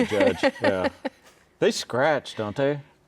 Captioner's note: laughing